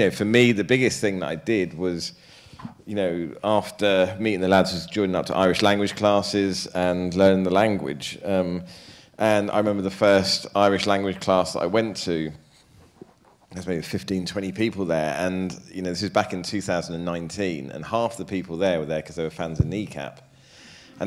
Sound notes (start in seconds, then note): none